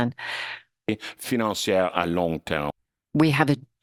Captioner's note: speaking in French